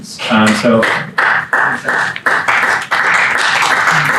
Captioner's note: audience applause